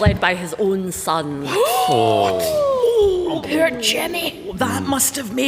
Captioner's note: gasps